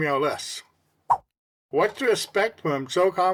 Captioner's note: swipe Sound